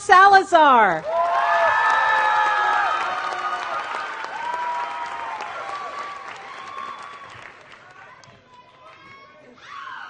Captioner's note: applause